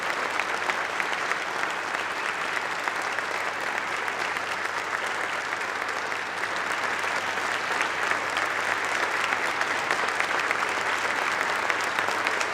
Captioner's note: applause